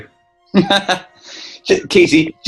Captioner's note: laughing